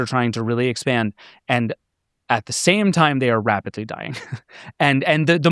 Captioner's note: chuckles